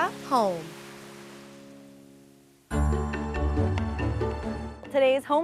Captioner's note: waves crashing on beach